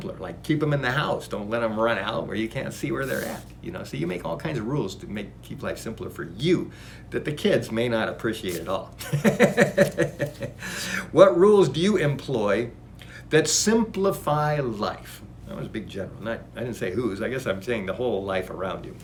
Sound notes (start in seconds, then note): 9.0 laughs